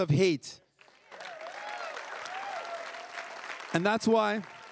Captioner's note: crowd cheering and applauding